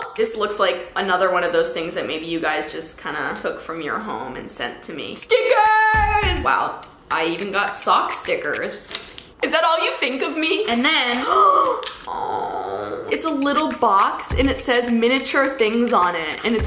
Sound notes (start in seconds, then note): 11.2 gasps